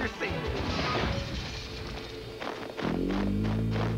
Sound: crash

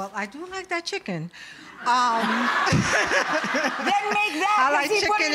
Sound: audience laughing

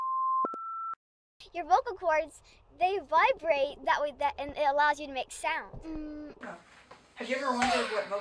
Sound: hum

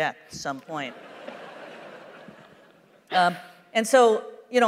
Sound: laughter

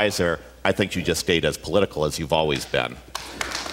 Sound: applause

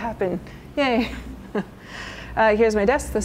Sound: chuckles

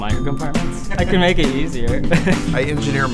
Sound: laughter

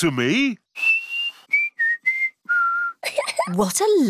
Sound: whistles a tune; giggles

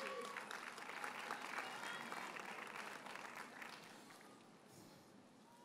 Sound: audience cheers and applauds

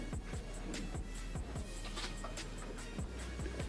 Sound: rips duck tape

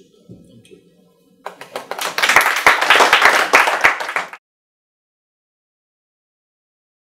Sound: group applauding

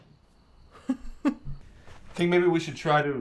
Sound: chuckles

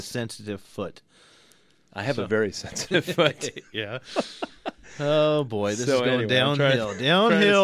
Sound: both laugh

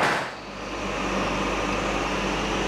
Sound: dull whirring

